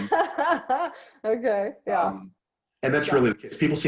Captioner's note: laughing